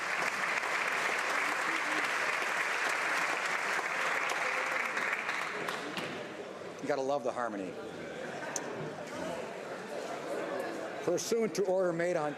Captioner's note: applause